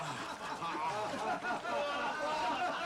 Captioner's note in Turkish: kahkaha sesleri̇